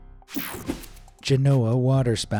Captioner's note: screen whooshing